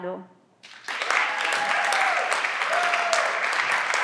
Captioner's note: everyone claps